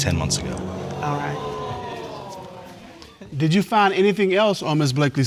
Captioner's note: audience exclaiming